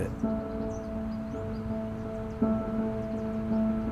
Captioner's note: birds chirp